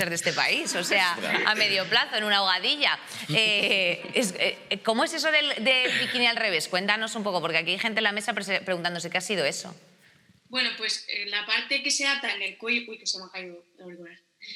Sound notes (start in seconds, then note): 5.8 laughter